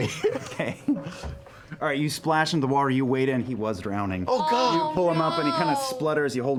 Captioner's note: laughing